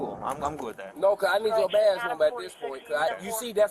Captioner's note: radio chatter